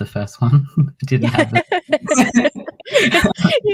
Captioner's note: laughs